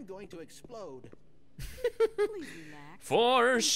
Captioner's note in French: rire